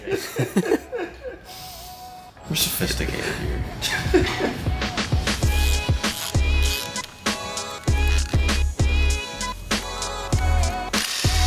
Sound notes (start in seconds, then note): 0.0 laughing; 3.8 laughing; 5.4 upbeat groovy music